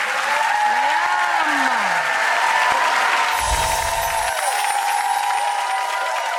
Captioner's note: audience cheering